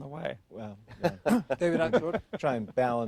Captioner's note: laughter